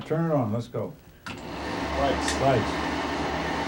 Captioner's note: whirring sound